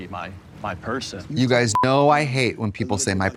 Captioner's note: beep